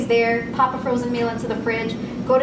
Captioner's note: microwave